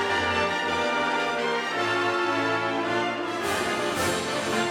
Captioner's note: none